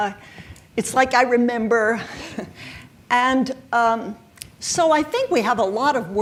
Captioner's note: chuckles